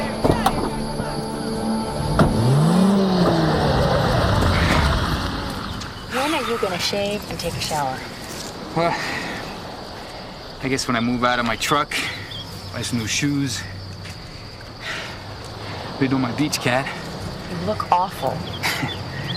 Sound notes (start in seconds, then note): 2.2 engine revving; 4.1 Tommy sighs; 16.5 scoffs